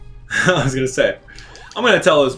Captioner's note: laughs